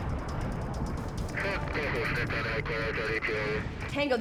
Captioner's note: radio chattering